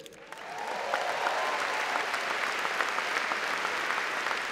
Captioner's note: audience applause